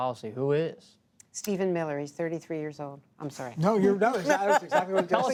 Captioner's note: laughter